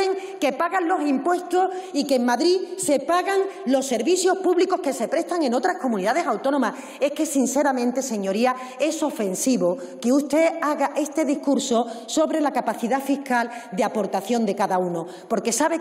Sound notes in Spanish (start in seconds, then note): none